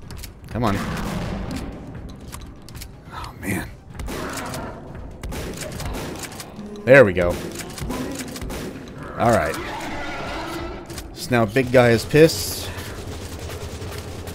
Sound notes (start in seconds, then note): 0.7 more boomsticking; 7.2 rapid Shotgunning; 9.4 enraged shriek from Big Boi Cannibal